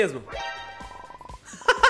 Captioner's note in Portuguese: risos